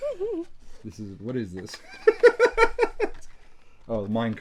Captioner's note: laughs